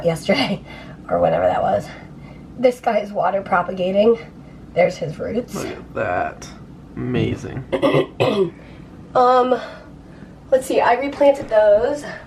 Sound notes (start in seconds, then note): 7.7 clearing throat